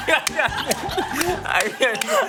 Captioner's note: crying